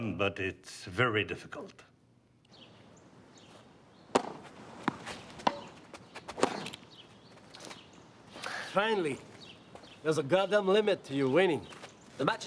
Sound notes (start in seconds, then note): 2.7 birds chirping; 4.0 tennis ball thwacking